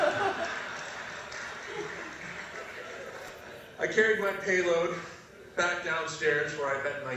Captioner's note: laugh